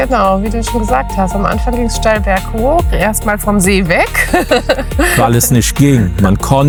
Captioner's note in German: gelächter